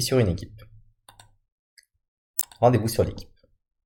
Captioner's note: Clic